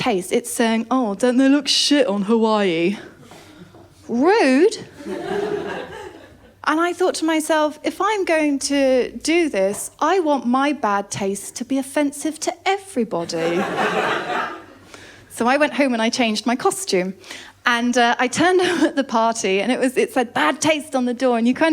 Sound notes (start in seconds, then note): 13.3 laughter